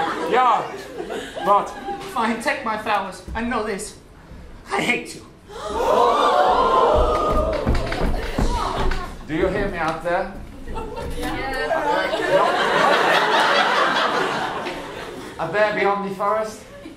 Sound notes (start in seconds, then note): 5.5 audience gasps